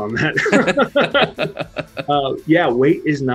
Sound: both laughing

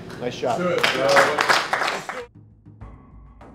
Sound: applause

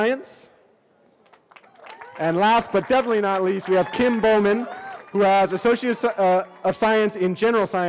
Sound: cheering

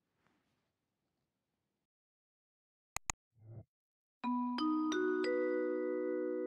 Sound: chime

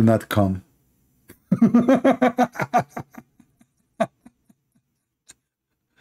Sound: Ketawa

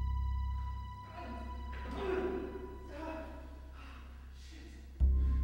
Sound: crying out

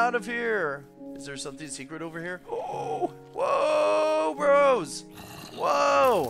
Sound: scared noises

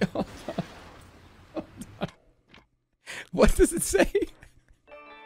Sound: giggling

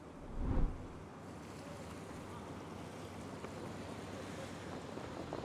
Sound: waves lapping and wind blowing

